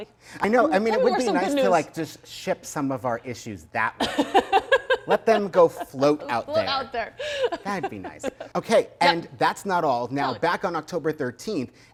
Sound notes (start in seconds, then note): 4.0 chuckling; 7.7 laughing